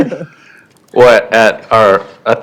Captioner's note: laughter